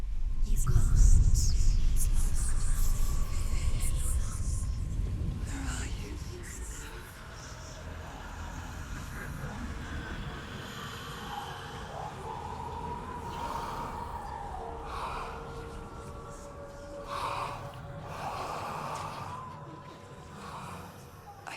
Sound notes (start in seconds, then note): 0.7 whisper; 7.8 raspy breathing